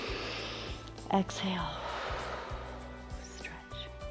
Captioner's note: inhales; exhales